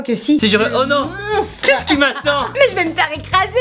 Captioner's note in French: Rires